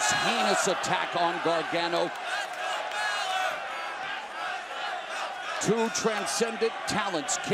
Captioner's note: crowd cheering